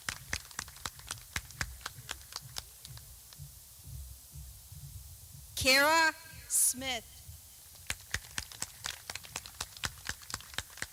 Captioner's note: clapping